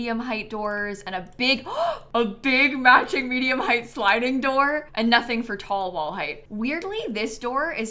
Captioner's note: gasps